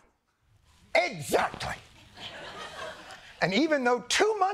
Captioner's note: laughter